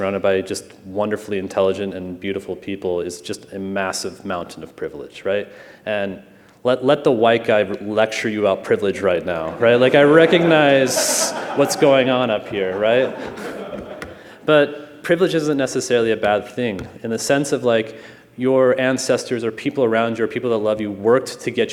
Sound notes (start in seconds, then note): 14.2 laughter